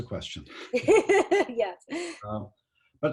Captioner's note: both laugh